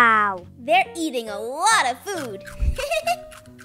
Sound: laughs

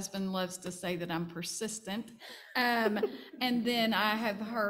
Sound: panel chuckling

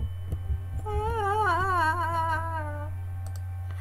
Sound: sound of being scared again

